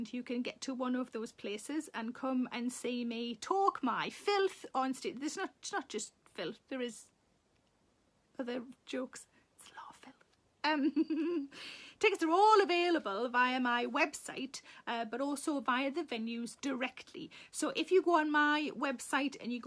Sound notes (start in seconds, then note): 9.7 Sarah whispers; 10.6 Sarah chuckles